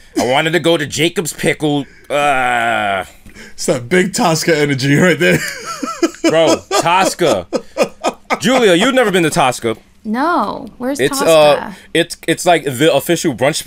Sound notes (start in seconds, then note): 5.2 laughter